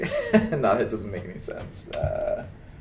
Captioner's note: laughs